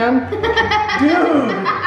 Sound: laughing

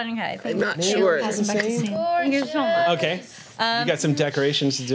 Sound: overlapping chatter

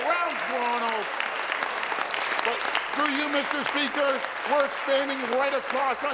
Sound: applause

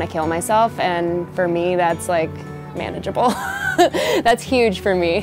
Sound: laughs

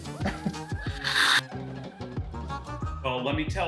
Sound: slurping

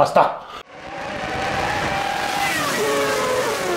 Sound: japanese words; engine sounds

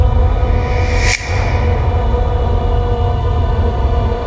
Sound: snap

